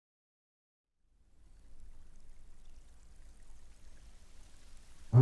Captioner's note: water lapping